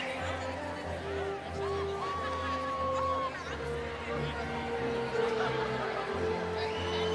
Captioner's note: inspirational music; cheering continues